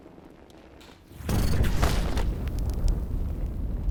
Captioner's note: flames roaring